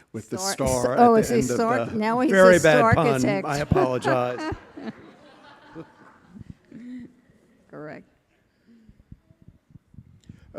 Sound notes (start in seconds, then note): 5.2 all laughing